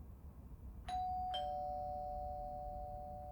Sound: doorbell rings

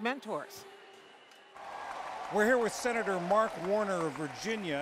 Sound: applause

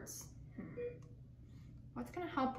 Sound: beeping

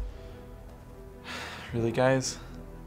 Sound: sighs

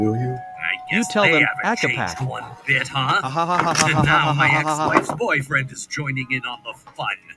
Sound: laughs

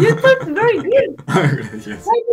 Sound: Spanish

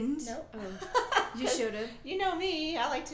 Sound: laughing

